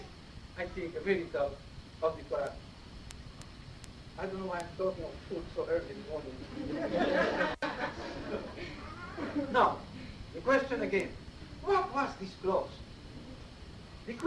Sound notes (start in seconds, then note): 6.4 laughter